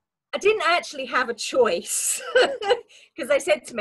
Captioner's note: laughs